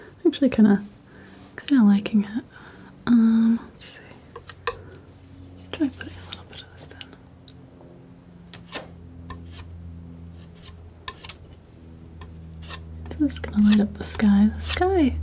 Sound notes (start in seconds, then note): 7.1 tapping